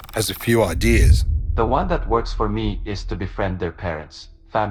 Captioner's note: ai voice